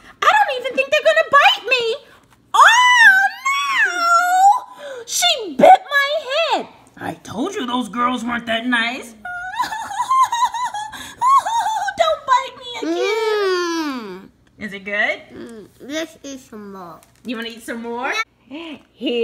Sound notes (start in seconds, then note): 9.4 crying; 14.9 voiceover; 17.6 voiceover